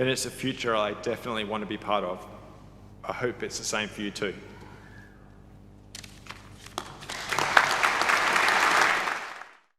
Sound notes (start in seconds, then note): 6.6 audience clapping